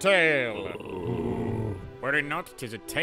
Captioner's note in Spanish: los hombres gruñen